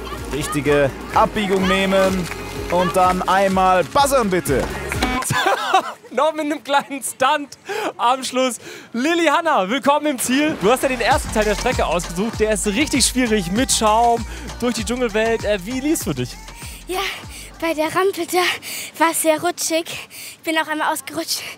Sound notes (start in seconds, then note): 4.8 lacht